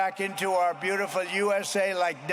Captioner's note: applause